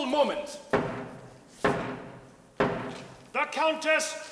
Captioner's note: steady tapping